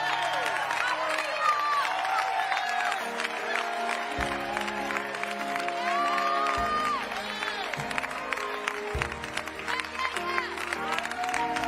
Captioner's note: applause